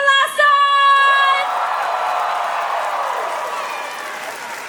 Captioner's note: cheering; applause